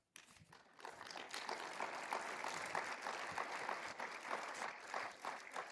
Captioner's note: everyone applauding